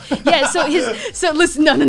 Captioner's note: laughs